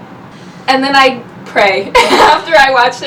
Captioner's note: laughs